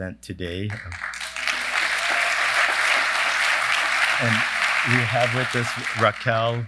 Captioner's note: applause